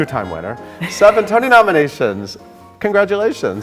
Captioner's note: Sutton laughing